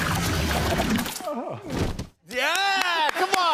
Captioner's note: groans; cheers and applause